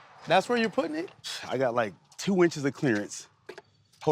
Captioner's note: scoffs